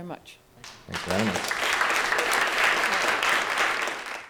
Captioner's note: audiences applauds